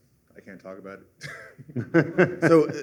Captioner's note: laughter